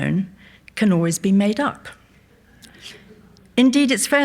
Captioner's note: audience laughs softly